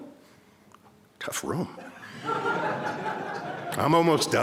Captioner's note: crowd laughs